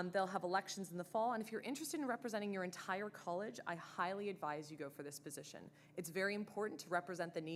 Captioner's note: none